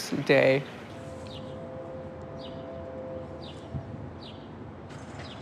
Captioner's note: birds chirping